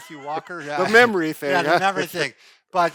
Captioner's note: laughs